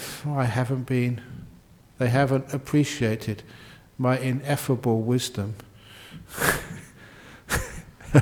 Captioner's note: chuckles